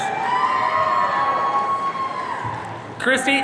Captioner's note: audience cheering